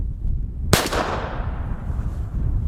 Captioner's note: pistol fires